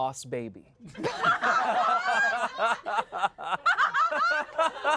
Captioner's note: everyone laughs